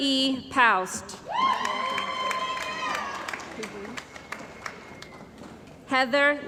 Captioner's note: cheering & Applause